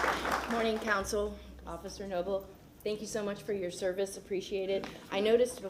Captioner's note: applause